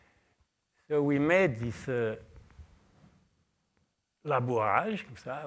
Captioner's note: french